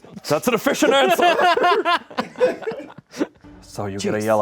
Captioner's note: everyone laughs; and crew laugh